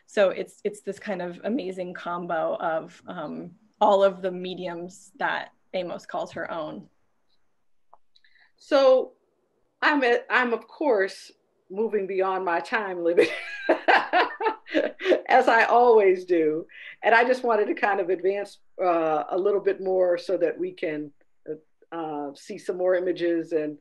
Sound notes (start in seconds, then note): 12.9 laughing